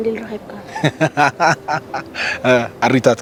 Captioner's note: laughs